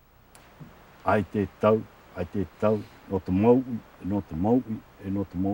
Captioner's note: speaking Tahitian language